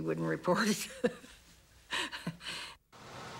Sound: laughs

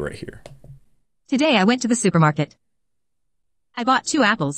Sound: automated Voice

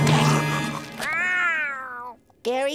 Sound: meows

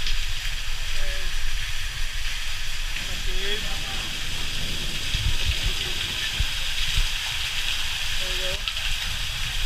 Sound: water Dropping

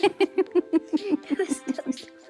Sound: laughing

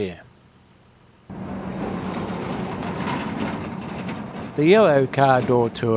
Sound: vehicle sounds

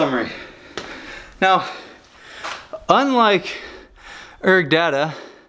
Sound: breathing heavily

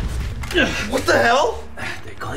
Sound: Ian grunts

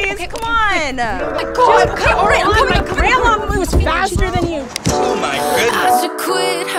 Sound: indistinct chatter

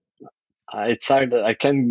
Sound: <Laugh>

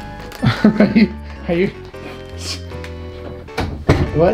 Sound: laughs

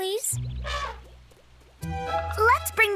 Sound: elephant trumpets

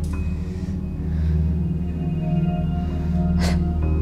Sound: heavy breathing

